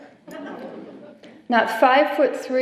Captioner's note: laughter